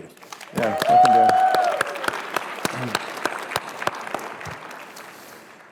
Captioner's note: applause